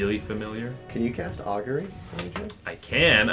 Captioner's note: quietly